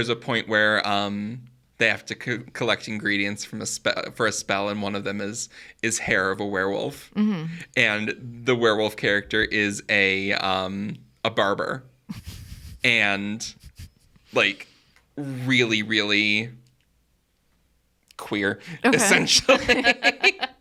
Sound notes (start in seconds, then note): 17.2 laughs